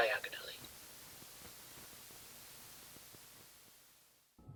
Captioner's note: Static